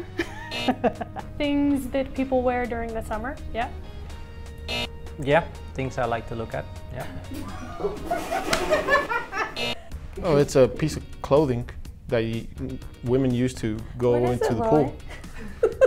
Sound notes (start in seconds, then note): 0.5 buzzer; 4.6 buzzer; 7.0 laughing; 9.5 buzzer